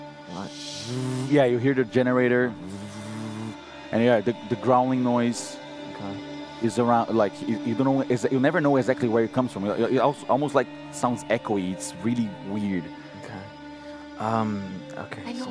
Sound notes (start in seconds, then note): 3.9 energy noise